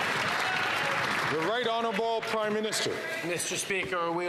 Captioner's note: some Applause